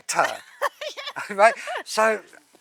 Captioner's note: laughing